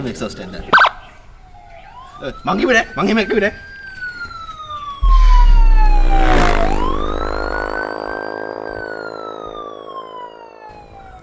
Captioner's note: police siren